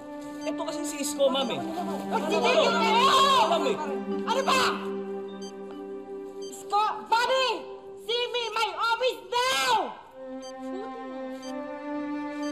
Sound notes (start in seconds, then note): 2.1 shouts